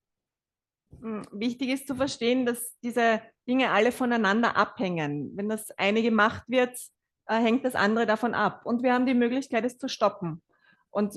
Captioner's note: German live translation